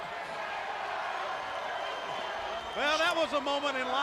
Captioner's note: crowd chatter